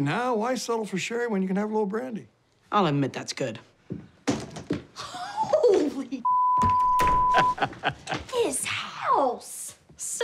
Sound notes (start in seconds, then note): 7.2 chuckling; 7.3 laughs